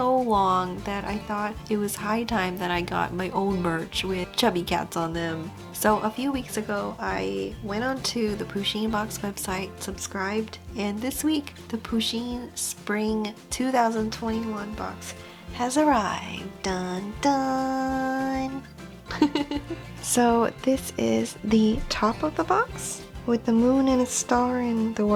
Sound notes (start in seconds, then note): 19.0 weird giggle